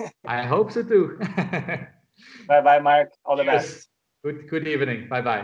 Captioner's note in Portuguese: Risos